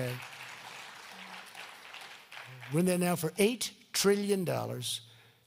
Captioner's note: applause